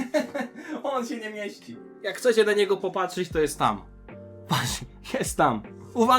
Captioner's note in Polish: śmiech; śmiech